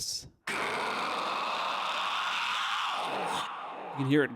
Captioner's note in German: isolierter schrei